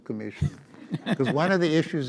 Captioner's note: audience laughs